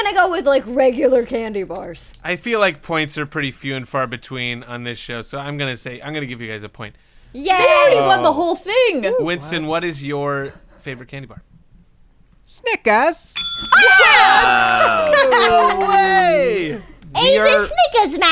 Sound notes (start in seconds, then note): 13.1 cockney voice; 13.3 bell dings; 17.0 cockney voice